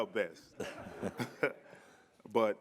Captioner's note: all laughing